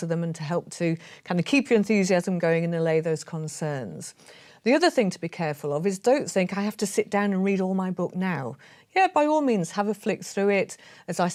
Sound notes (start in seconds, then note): none